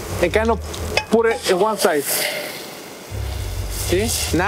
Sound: sauce sizzling

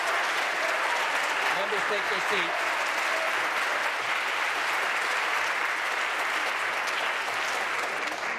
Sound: applause

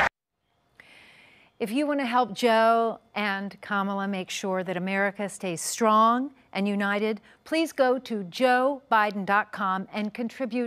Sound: cheering and applauding

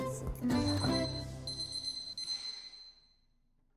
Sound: timer beeping

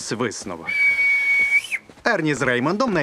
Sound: whistles

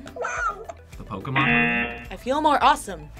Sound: buzzer

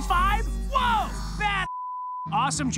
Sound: beep

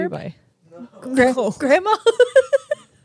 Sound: laughs; chuckles

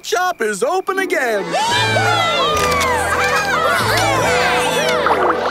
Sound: cheering

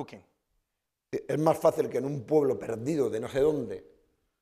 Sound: speaking spanish

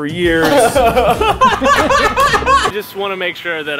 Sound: laughing

